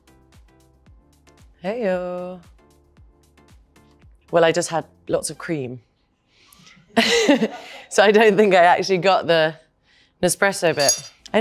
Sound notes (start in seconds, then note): 6.9 laughs